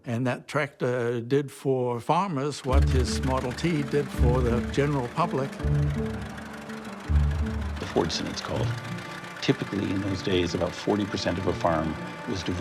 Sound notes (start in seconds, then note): 6.2 engine chugging